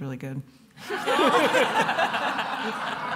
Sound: laughter

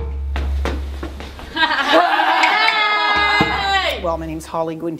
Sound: performers laughing

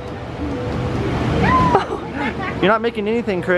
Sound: laughing

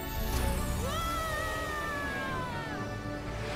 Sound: screams

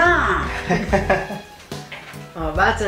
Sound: laugh

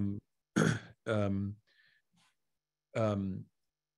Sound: Simon coughs

